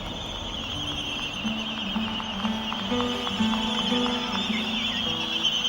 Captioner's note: albatross twittering